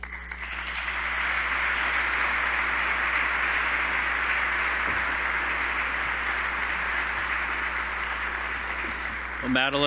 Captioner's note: applause